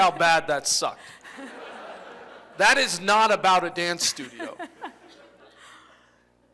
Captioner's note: laughter